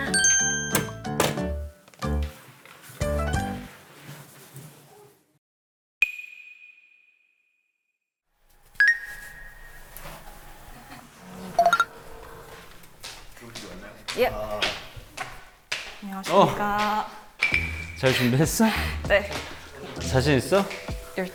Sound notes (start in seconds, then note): 2.0 scurrying